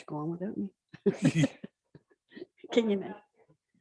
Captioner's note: all chuckling